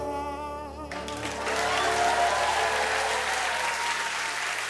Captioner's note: cheers and applause